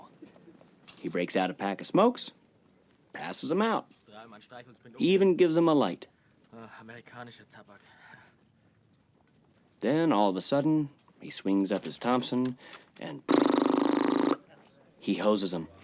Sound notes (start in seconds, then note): 6.7 in german; 13.3 imitates rapid gunshots